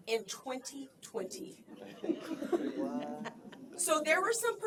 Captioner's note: laughter